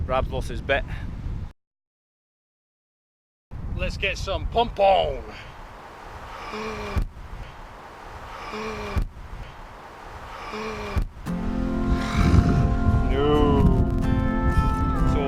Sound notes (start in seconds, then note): 6.3 gasps in disbelief; 8.3 the gasp again for dramatic effect